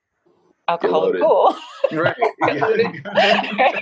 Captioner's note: laughs